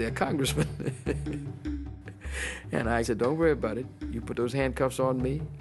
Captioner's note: laughter